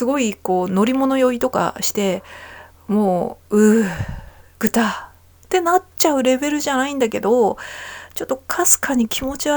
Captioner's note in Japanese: 息をのむ音; ため息